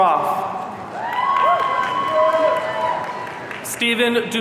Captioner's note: audience cheering